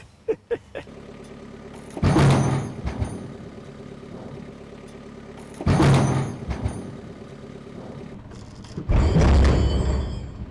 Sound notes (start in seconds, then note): 0.2 snickers; 1.0 motor rumbles; 2.0 log thumps